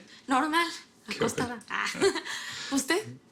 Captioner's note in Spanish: Risas